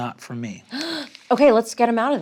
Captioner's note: gasps